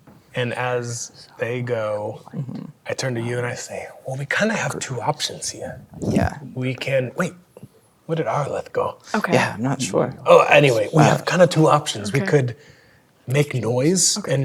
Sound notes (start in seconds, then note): 1.2 whispering